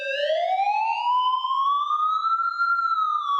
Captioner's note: siren blaring